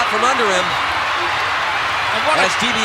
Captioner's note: audience cheering